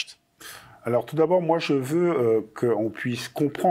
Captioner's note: non-english speech